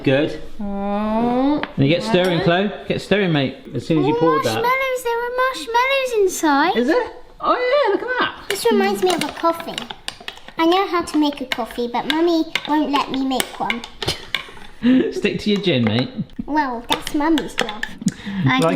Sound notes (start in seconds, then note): 14.1 laughs